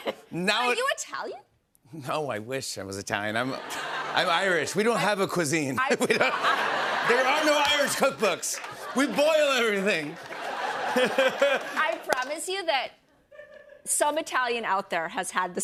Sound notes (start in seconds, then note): 5.8 laughter